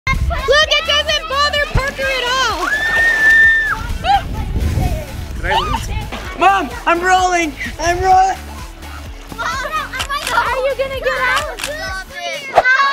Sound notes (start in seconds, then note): 2.6 shrieking; 9.5 shouting over each other